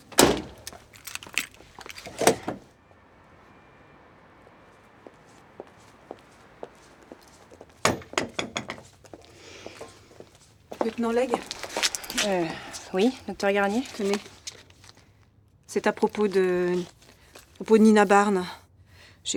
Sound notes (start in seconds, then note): 4.4 footsteps